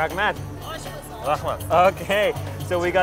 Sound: speaking foreign language

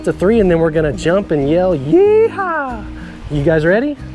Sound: laughs

